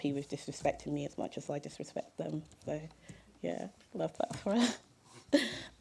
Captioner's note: chuckle